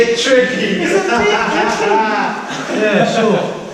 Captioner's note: laughter